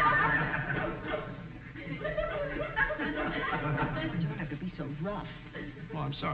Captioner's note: laughs; audience snickering